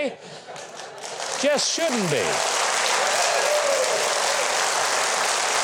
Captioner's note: audience laughing; audience cheering